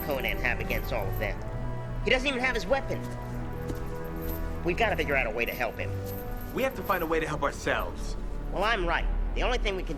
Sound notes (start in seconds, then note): 2.4 footsteps